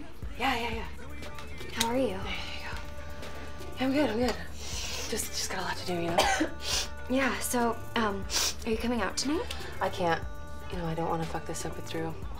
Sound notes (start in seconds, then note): 4.6 sniffles; 6.0 coughs